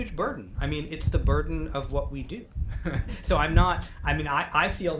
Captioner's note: laughs